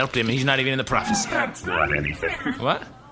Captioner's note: laughing